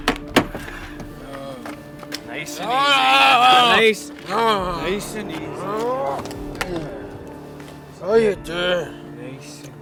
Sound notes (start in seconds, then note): 3.4 grumbling